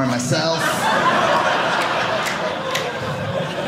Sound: audience laughing

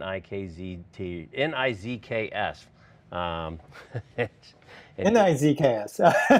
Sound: laughs

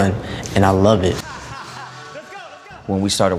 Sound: laughs

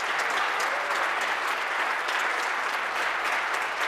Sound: applause

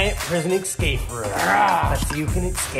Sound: grunting

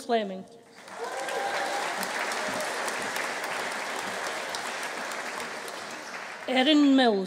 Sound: audience applauding; audience cheering

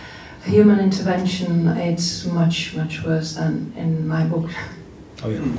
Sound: laughs

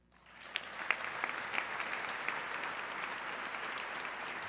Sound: audience clapping

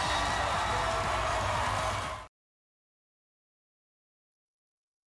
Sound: crowd cheering

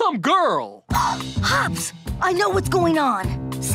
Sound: gasping

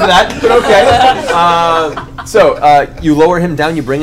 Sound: all laugh

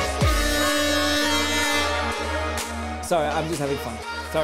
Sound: siren blaring

